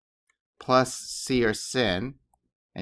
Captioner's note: speaking greek